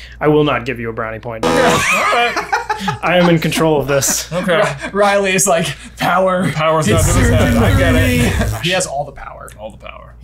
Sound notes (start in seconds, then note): 1.4 buzzer buzzes; 1.4 laughs